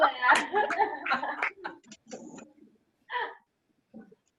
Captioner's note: laughter